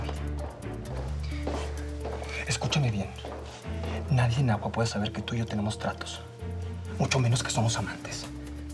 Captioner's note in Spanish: Pasos cercanos